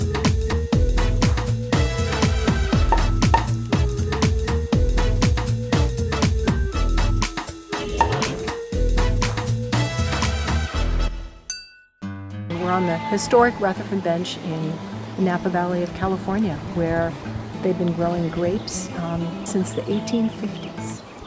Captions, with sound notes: (corks popping) (glasses clinking) - We're on the historical Rutherford Bench in Napa Valley of California, where they've been growing grapes, since the 1850s.